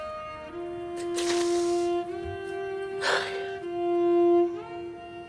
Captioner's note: Angela sobbing